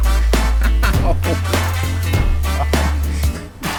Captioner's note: laughing; laughs